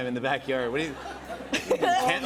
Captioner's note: laughter